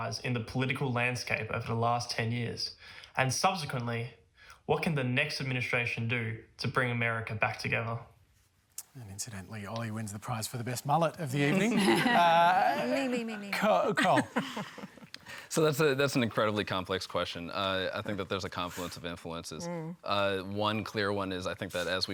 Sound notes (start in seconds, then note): 11.5 laughter